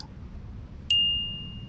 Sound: bell rings

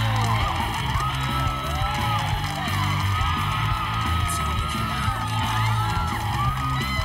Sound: spectators cheer; upbeat music

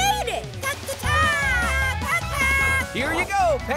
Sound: chattering

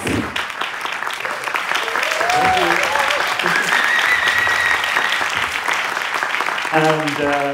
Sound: applause

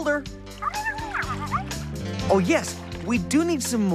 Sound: garbled Voice of Caller

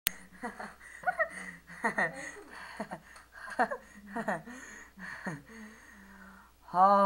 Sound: laughs

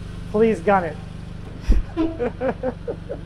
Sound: laughing

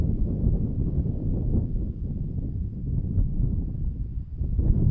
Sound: wind whooshing

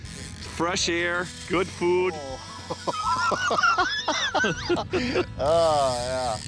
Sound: laughing

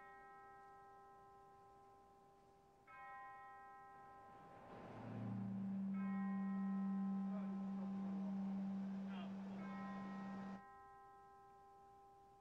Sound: bell tolls

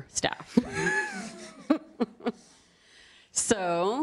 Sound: laughs

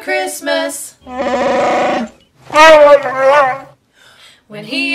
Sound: wookiee noises

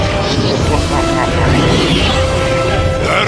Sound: laughing

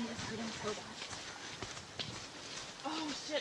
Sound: sound of footsteps continues

